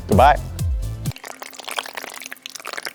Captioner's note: trickling water